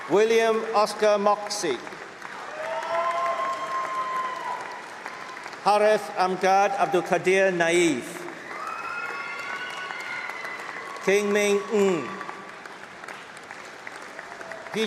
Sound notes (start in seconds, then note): 0.0 applause; 2.2 cheering; 5.4 applause; 12.9 applause